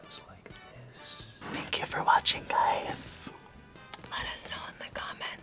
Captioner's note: whispers